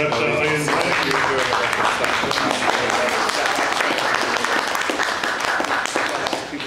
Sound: audience applauds and panelists applaud

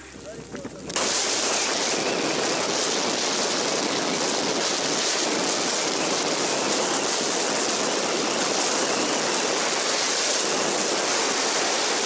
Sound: severe sound of wind

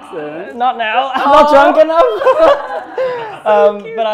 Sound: laughter

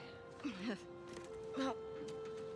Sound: laugh

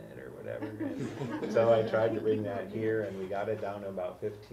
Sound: laugh

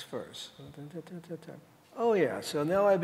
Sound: humming

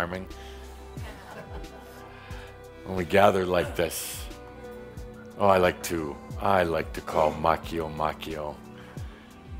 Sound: a few chuckles

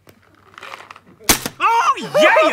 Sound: bam

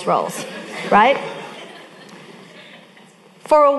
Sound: audience laughing

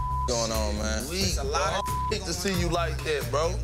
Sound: beep

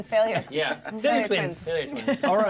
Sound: speaker laughs

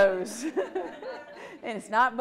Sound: audience laughs

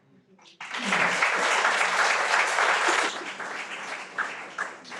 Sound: everyone applauds

